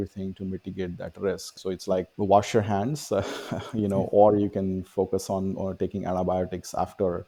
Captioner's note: laughs